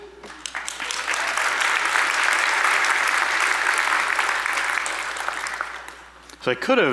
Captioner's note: applause